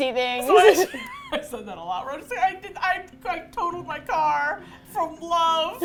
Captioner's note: laughs